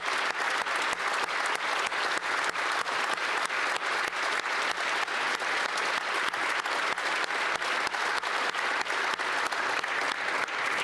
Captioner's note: applause